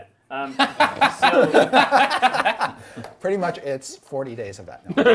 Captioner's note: group laughs